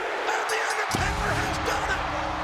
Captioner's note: bell rings